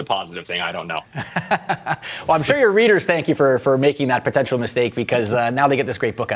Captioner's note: laughs